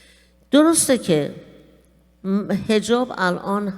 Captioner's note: speaking persian